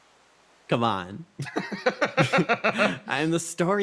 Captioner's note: laughs